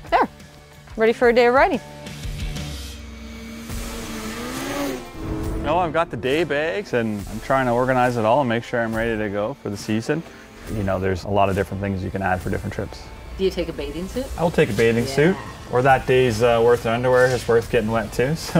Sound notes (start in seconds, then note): 3.1 sled engine revving